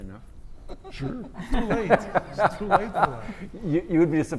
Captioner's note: laugh